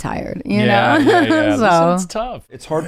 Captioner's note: laughs